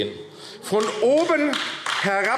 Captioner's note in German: Beifall AfD